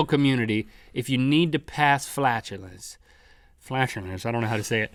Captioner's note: nasally voice